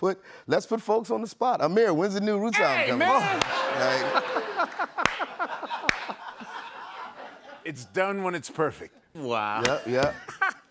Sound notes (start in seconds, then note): 3.2 laughter